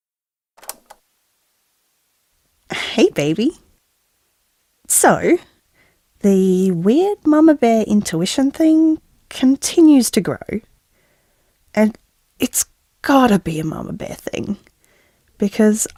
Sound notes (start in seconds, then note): 0.6 cassette Noise